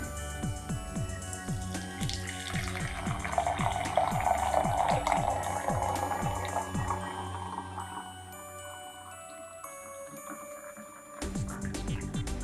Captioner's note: coffee pouring into mug